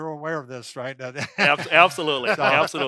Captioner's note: they laugh